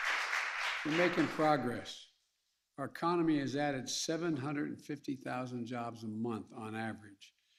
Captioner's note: applause